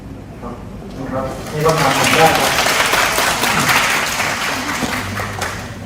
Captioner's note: clap